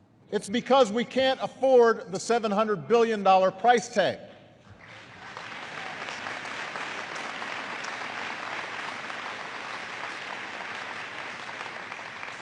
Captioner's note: applause